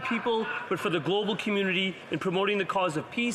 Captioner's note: speaking alternate language